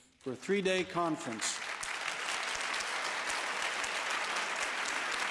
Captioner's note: applause